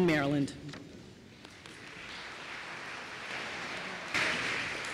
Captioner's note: applause